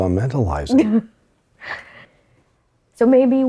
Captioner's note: laughs